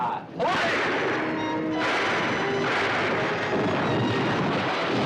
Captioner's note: suspenseful music; gun fires; tank topples over; loud thunder